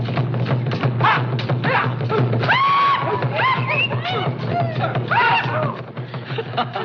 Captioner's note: grunting Continues; others Screaming; Pete Laughs